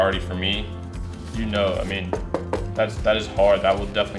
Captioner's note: knocks